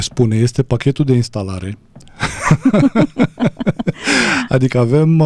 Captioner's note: laughter